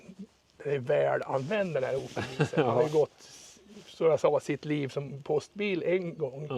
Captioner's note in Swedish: skratt